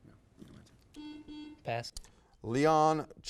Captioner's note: buzzer buzzes